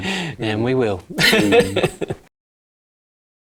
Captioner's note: laughing